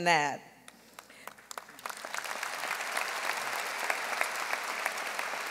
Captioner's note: audience applauding